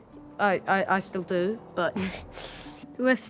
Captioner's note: chuckles